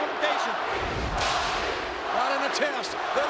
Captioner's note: spectators cheering